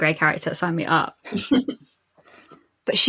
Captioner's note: laughs